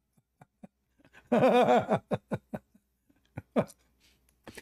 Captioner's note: Ketawa